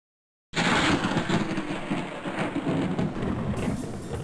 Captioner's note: lightning cracks